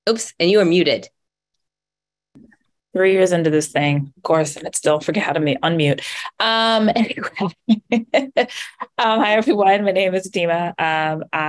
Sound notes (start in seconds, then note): 7.0 laughs